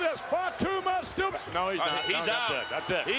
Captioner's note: bell ringing